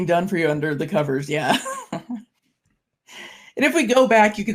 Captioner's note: laughs